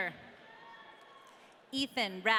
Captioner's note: audience cheering